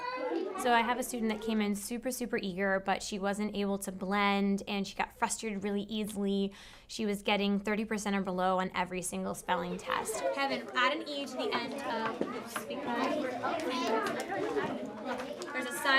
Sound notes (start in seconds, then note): 11.5 classroom sounds